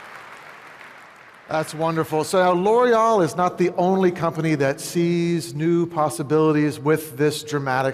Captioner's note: applause